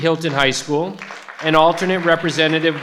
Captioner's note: participants clap